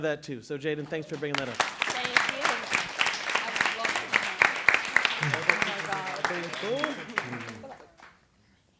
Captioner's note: applause and chatter "thank you"